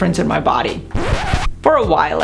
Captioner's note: mellow upbeat music; record scratch